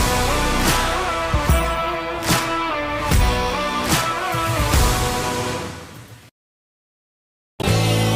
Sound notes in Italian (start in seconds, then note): 2.2 Applauso